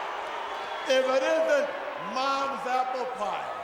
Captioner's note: crowd chatter